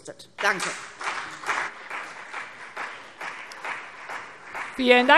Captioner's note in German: Beifall CDU und BÜNDNIS 90/DIE GRÜNEN